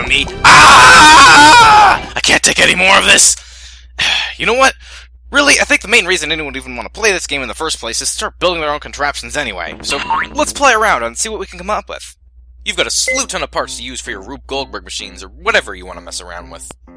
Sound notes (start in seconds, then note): 3.9 sigh